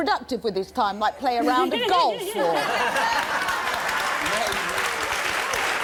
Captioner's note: applause